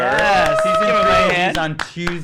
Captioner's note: applause